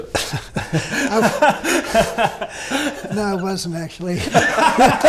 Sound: laughing

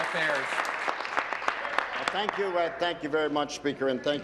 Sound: applause

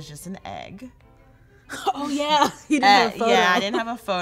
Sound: laughing

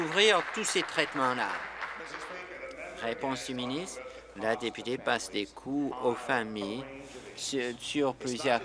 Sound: applause

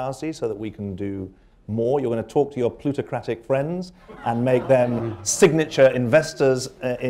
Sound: laughter

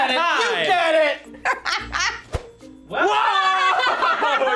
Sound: laughs

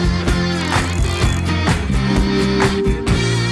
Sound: dial clicks

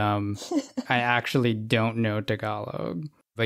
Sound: laughs

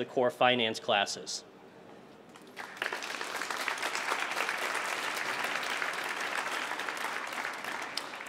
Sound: applause

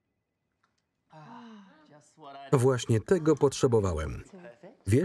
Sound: sighs

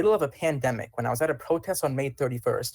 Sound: ~audio distortion~

